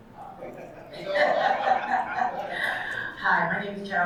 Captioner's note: audience laughing